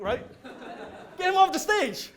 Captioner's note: audience laughs